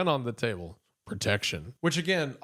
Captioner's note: deep voice